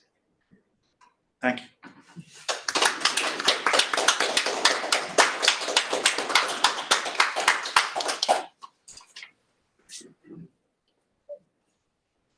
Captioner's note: appluse